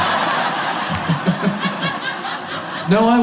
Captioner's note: audience laughs